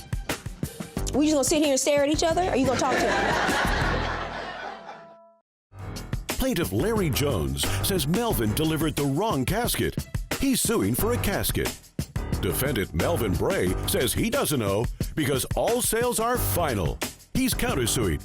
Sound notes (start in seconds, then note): 0.1 audience chuckles; 4.1 audience laughs